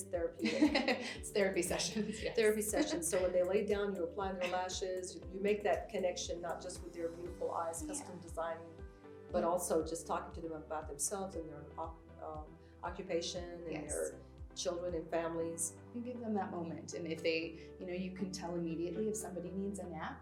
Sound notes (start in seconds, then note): 0.4 laughs